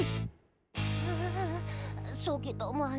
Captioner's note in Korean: 신음 소리